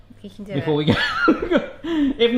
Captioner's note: laughing